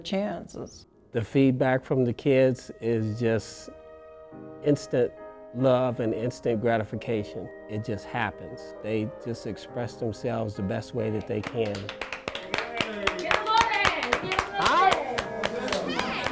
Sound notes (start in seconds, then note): 11.2 applause